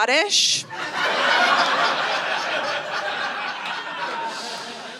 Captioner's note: audience laughing